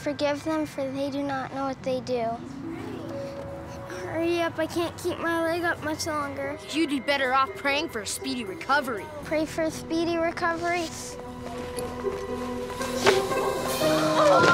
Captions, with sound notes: what they do... Hurry up, I can't keep my leg up much longer. -You'd be better off praying for a speedy recovery. -I pray for a speedy recovery... [kicking sound] [falling sounds]